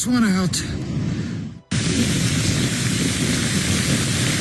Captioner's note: wind